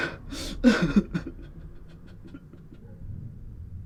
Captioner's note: desperate sobs